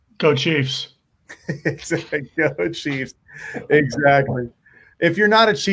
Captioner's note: laughing